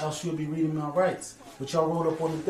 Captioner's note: voiceover